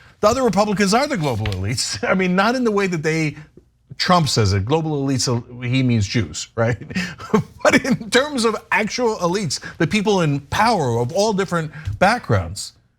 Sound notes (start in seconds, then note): 6.6 laugh